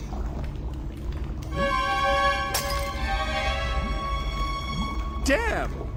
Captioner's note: tense music; glass shattering